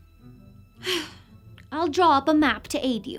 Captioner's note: sighs